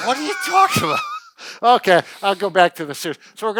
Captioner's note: laughing